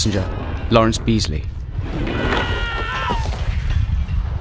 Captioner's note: passengers Panic